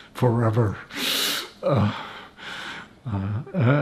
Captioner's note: laughing